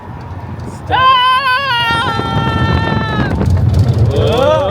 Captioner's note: screaming